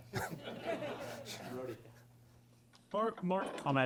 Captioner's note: laughter